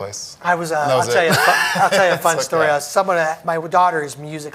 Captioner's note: laughs